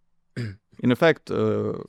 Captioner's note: clears throat